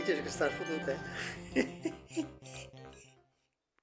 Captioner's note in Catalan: Riu